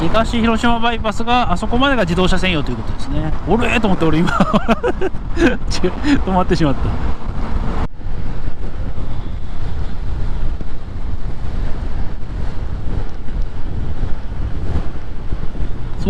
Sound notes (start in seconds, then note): 4.9 impatiently; 6.6 laughs